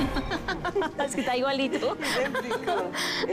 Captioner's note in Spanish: Risas